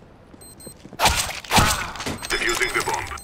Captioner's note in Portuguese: som de morte